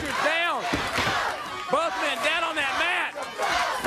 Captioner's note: crowd cheering